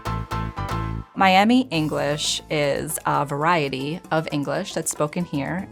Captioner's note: upbeat music; talking